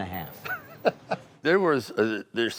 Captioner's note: Sylvester laughing